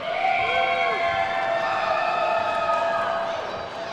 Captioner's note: attendees whooping